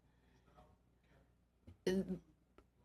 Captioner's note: speaking in French